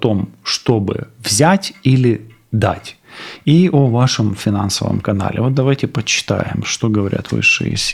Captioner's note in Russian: фыркает